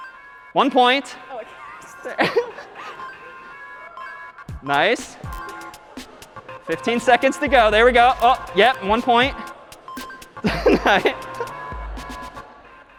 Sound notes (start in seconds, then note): 2.7 dinging; 10.3 laughing